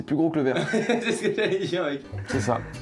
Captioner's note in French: en riant